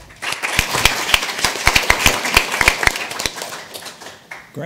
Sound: audience applauding

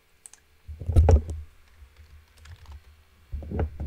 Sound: mouse clicking; keyboard typing

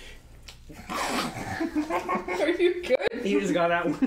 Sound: muffled chuckle into the meat of a chicken wing

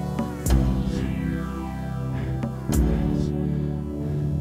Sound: heavy breathing

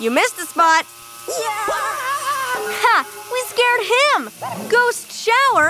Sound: Luigi exclaiming

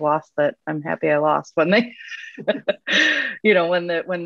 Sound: laughs

